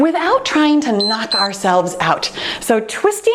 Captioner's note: timer beeps